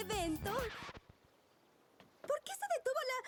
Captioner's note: record scratch - music stops